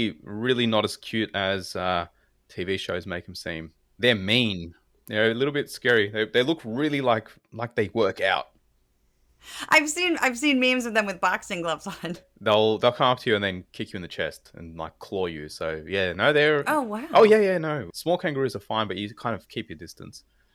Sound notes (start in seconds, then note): 12.0 laugh